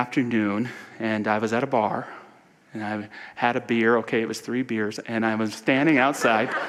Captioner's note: audience laughter